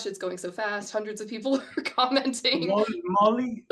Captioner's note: laughs